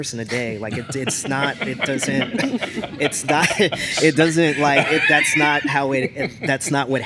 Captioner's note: laughter